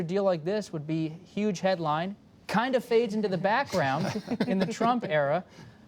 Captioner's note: laughter